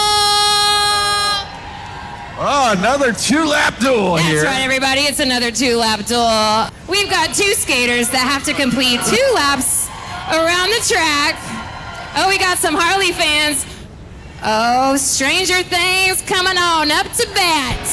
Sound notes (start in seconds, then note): 1.4 crowd cheering; 11.5 crowd cheering